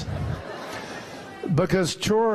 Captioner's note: laughter